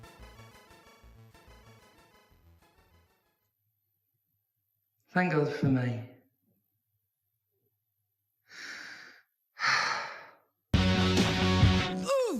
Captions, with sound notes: Thank god for me. *sigh*